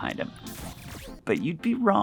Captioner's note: electricity buzzes